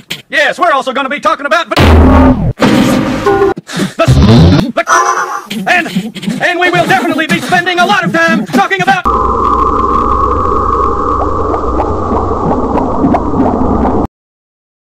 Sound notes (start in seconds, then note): 1.8 crit sfx; 9.0 droning